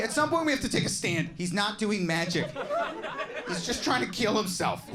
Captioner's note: audience laughing